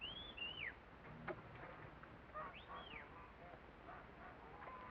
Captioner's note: whistling